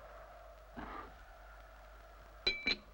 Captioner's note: beaver exhales